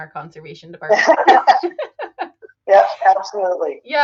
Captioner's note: all laugh